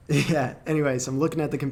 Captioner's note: laughing